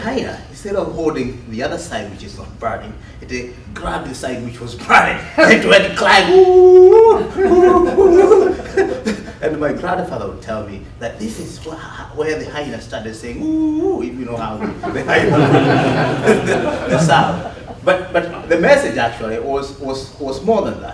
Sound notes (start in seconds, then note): 7.6 howling; 14.6 laughter